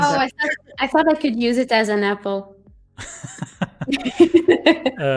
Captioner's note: laughs